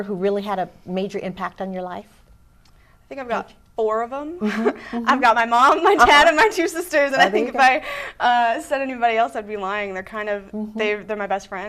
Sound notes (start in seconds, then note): 5.9 laughing